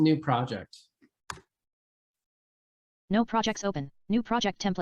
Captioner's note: mouse clicking